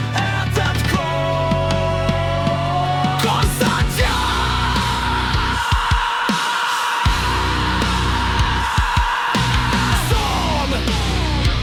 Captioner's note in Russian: Резкий крик вокалиста